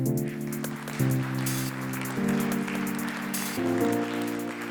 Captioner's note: audience applauding